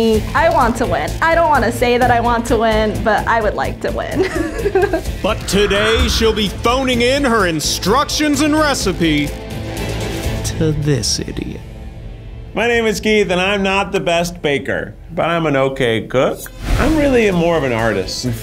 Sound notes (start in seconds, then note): 4.2 laughs